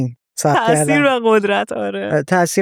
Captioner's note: laughs